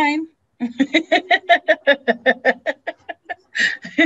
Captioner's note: laughs